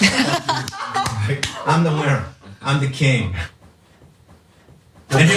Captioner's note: laugh